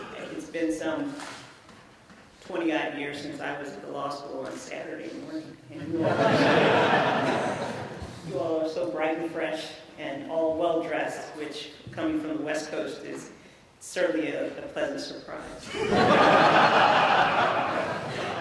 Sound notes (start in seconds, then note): 5.8 laughter; 15.6 laughter